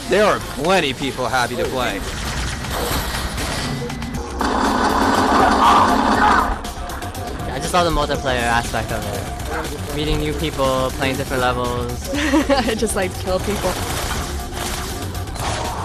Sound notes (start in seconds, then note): 2.5 lasers firing; 5.0 gunfire and shouting; 13.3 gunfire